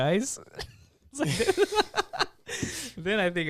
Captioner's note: laughs